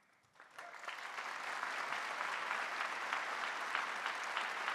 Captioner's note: audience applauding